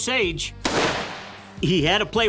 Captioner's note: gunshot